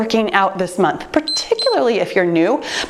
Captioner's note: timer beeps